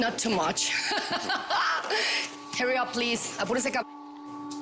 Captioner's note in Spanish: Risas